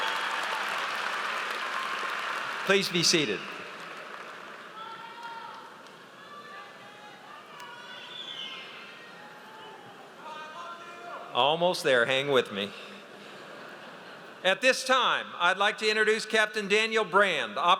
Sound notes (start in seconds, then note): 13.2 audience laughs